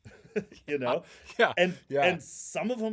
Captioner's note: laughing